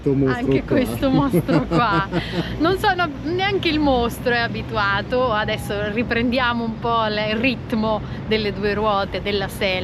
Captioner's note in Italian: risate